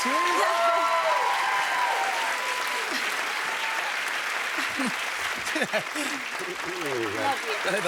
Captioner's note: cheers and applause